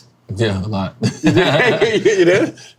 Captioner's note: men laughing